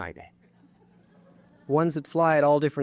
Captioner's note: audience laughing